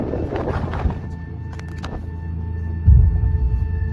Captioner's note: wind blowing; intense music